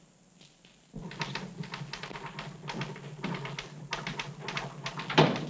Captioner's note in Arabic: نقر الآلة الكاتبة